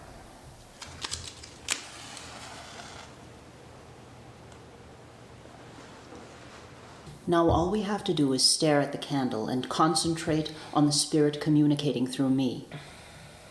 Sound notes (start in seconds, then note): 1.7 match scraping; 2.0 flame crackling